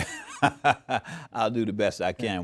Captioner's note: laughs